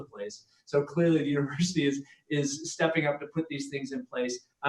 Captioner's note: laughs